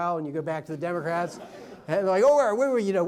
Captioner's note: audience laughs